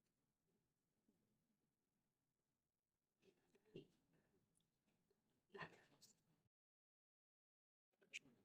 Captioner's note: silence